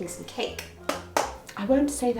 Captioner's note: hand tapping